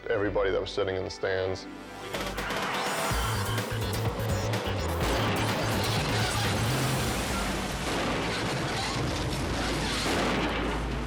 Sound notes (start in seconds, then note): 1.6 dramatic music; 5.0 cars crashing